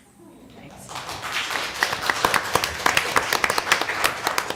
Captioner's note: applause